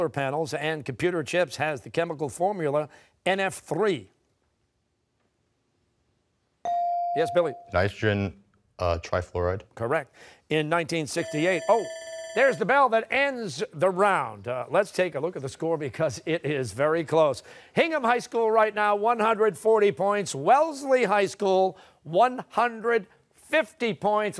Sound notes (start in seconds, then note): 11.2 bell ringing